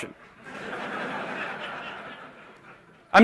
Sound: laughter

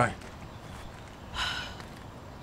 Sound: mom sighing

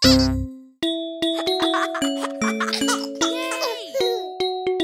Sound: lively music; kids chuckling

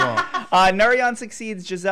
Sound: laughing

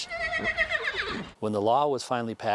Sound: neigh

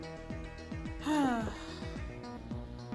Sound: sigh

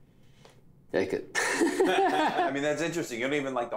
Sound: laughs

